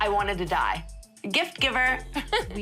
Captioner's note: laughs